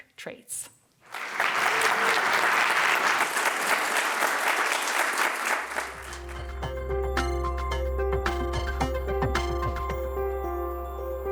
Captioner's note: applause